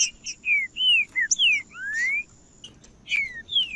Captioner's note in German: trinca ferro cantando